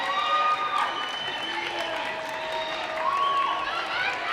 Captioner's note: audience cheering